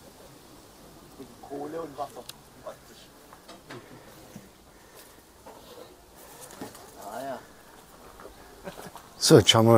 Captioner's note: laughs